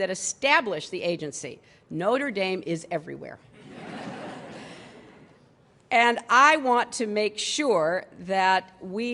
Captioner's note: laughter